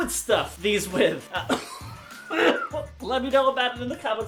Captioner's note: coughs